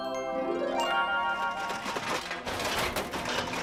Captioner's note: metal clanging